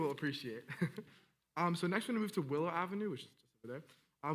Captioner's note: laughing